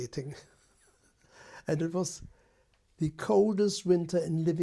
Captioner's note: laughs